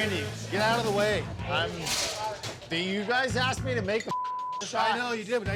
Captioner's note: beep